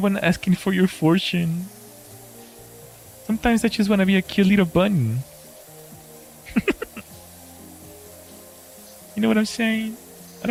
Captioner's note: laughter